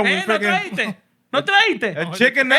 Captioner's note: speaking Spanish